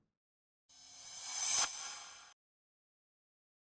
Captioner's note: swish